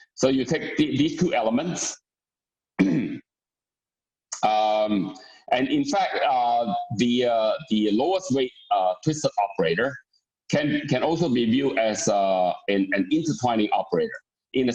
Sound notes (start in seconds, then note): 2.8 clears throat